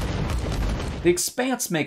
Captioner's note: explosions and dramatic music